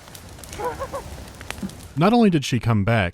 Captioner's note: deranged giggling